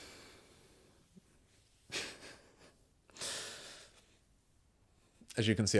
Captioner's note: silence